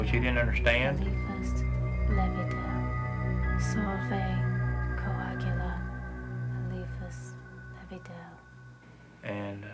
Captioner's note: non-english speech